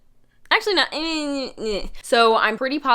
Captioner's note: confused mumbling